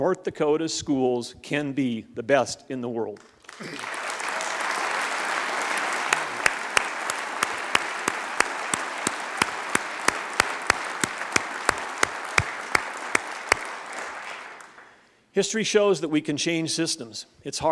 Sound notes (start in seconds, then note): 3.6 applause